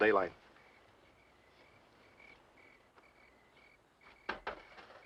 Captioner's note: crickets chirping